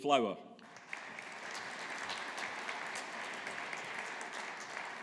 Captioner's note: audience applauding